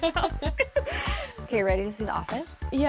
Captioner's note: both laughing